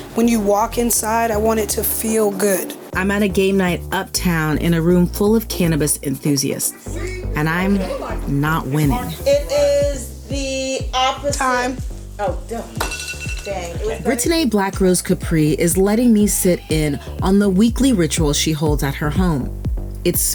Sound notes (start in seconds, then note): 13.3 alarm rings